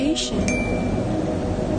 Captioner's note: livestream notification bell rings